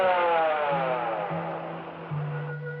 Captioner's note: siren stops